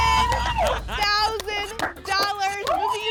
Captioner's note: applause and cheering